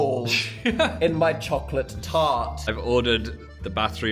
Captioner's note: Phil laughs